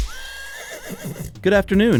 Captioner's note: whip sound; horse neighs